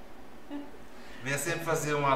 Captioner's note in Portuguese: risos